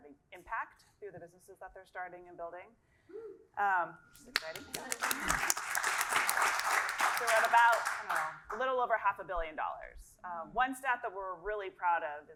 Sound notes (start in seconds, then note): 4.2 applause